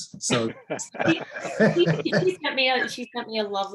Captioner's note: all laugh